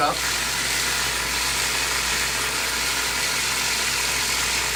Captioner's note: machine whirring